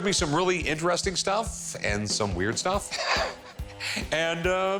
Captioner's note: cackles